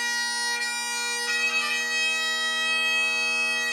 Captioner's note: none